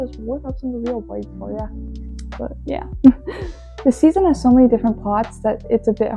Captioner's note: laughs